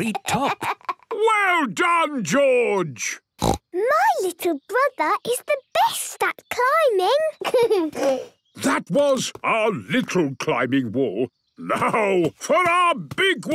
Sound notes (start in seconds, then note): 3.4 snorts; 7.3 giggles